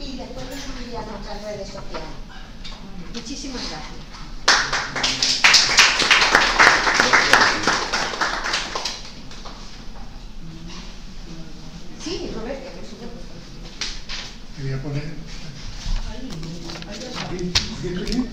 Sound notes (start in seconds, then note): 4.4 applauses